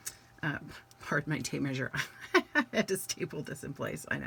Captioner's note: laughs